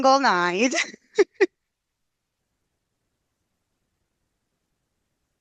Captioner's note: laughing